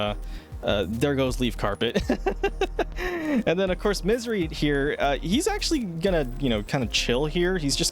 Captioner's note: laughter